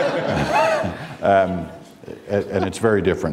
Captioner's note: laughter